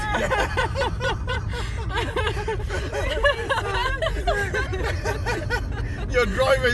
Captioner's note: hysterical laughter